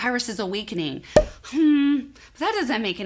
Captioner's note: bubble popping